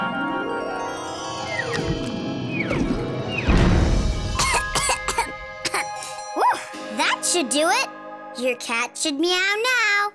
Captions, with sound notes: [coughing] Whoa, that should do it. Your cat should meow now.